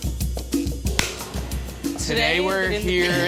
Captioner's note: smacking; laughing